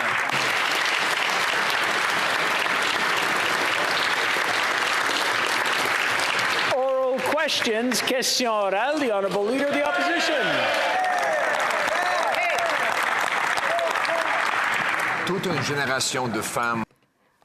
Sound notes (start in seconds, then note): 4.0 applause